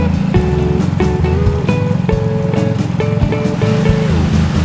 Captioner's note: motor boat whirring; upbeat instrumental music continues; water splashing